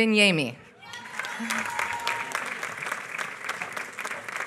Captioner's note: applause